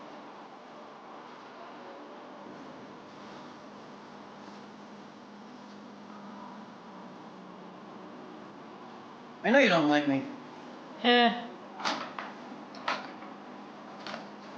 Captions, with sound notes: - I know you don't like me. - Eh. (door latching)